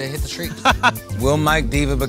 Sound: laugh

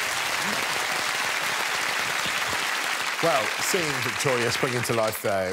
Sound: audience applause

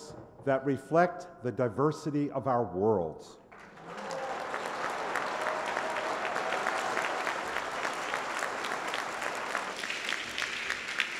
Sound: applause

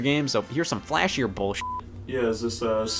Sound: beep

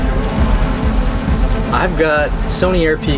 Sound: drone buzzing

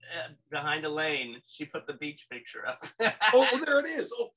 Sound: laughs

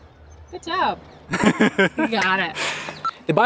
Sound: laughs

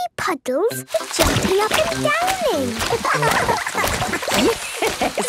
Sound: laughing; Madame Gazelle laughing

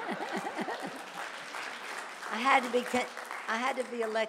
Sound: laughs; audience applauding

